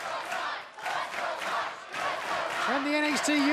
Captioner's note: fans chanting